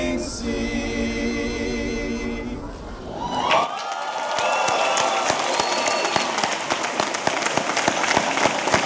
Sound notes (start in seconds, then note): 3.1 audience cheering; 3.4 audience applauding